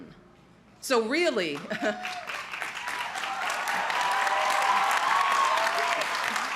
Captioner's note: crowd cheering